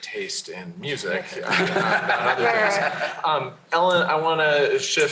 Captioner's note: laughter